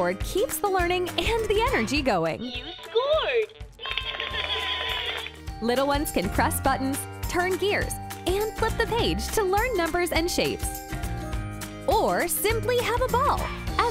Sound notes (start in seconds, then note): 3.8 children applauding; 3.8 children cheering